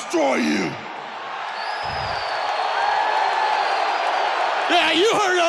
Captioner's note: audience cheering